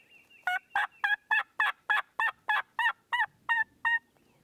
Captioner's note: gobbling